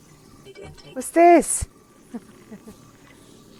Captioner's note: laughing